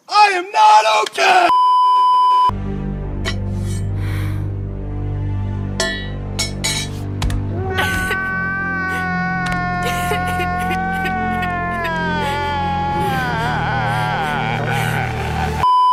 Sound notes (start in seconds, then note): 3.8 shaky inhale; 6.4 mask clink